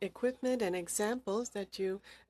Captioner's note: speaking French